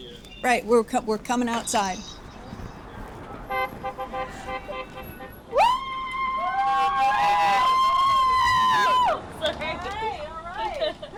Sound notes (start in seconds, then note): 5.5 cheering